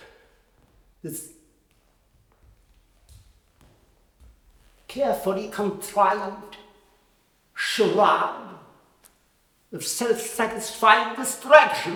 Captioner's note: laughs